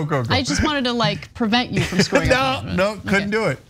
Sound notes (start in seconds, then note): 1.7 laugh